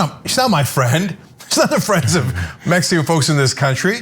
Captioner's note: laugh